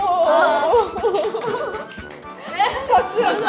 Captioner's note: staff claps